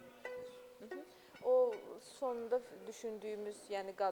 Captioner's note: non-english speech